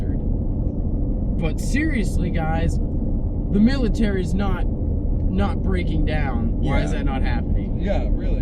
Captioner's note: In whiny Joel Voice